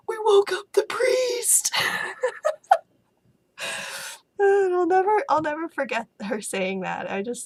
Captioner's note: laugh